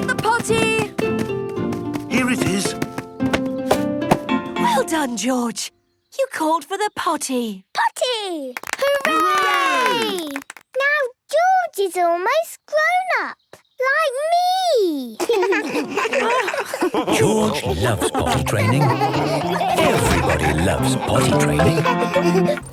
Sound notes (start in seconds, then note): 8.5 cheering, clapping; 15.6 laughs